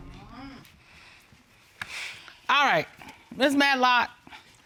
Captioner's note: sighs